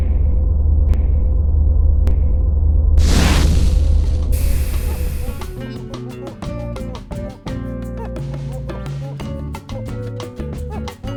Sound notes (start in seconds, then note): 3.0 explosion